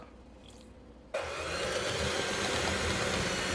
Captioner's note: mixer noises